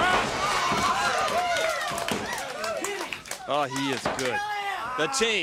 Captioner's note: crowd cheering